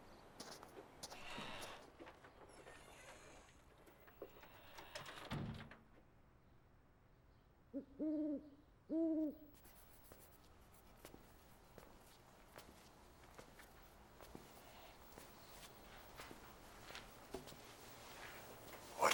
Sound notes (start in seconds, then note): 4.7 door closes; 7.7 owl hoots